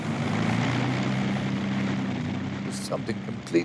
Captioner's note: plane engine roaring